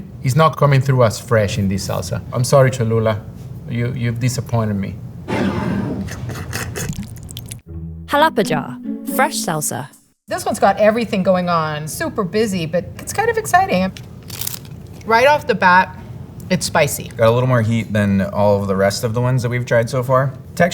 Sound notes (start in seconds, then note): 5.0 jar sliding; 5.0 lid opening; 6.7 salsa pouring; 14.2 mouth crunching